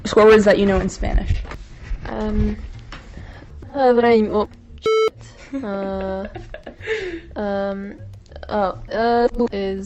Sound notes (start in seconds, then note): 4.8 beep; 5.3 laughter